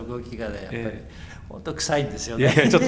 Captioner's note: laughs